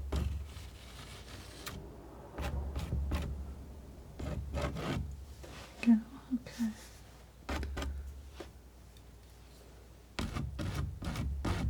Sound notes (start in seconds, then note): 0.0 scratching; 6.9 scratching